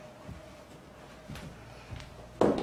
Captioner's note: shoes clicking